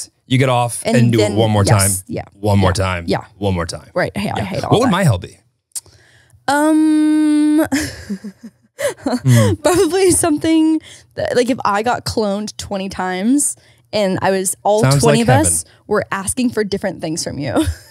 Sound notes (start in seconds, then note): 8.8 laughs